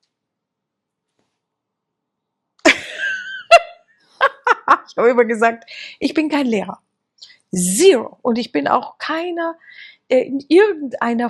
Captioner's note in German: gelächter